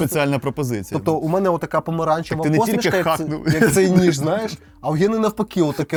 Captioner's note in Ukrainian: сміх